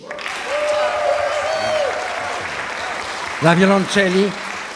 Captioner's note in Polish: aplauz